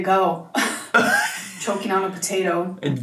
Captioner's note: chuckles